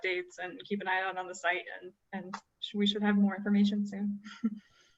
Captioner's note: laughter